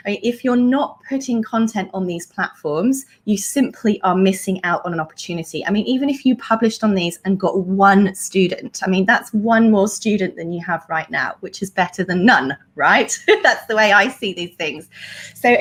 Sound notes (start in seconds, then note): 13.1 laughs